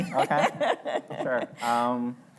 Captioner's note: laughing